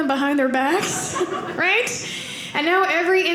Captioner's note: audience laughing